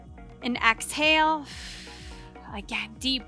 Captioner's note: breathing heavily